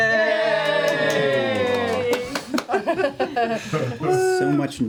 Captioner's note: cheering